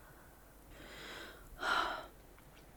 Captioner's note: sighing deeply